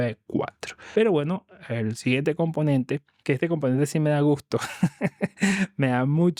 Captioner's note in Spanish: risas